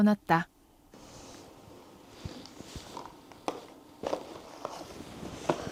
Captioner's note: rummaging